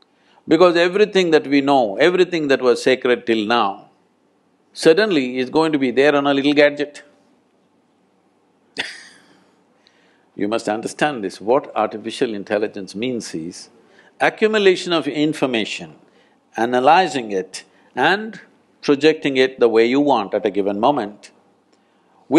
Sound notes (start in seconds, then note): 8.8 laughs